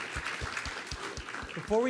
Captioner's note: applause